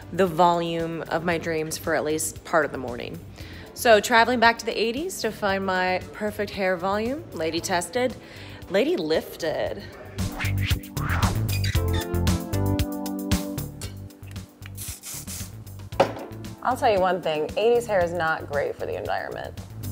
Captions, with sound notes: the volume of my dreams for at least part of the morning. So traveling back to the 80s to find my perfect hair volume, lady tested, lady lifted. (upbeat music) (whooshing) I'll tell you one thing, 80s hair is not great for the environment.